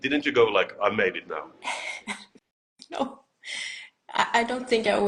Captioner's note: laughs